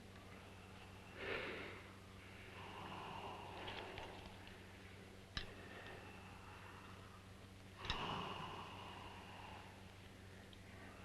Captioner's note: sound of labored breathing